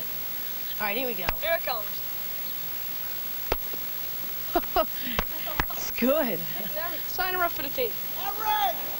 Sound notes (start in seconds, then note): 3.5 thudding; 4.5 laughs